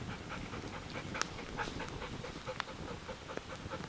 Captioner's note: Cali panting